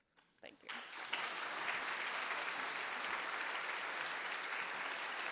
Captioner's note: audience applauding